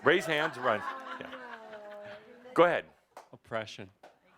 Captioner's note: laughter